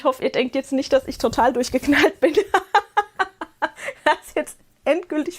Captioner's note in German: gelächter